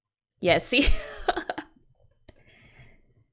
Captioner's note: laughs